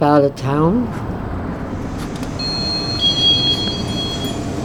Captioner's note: bell ringing